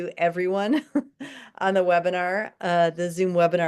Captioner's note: chuckles